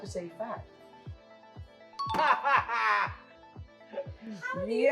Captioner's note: laughs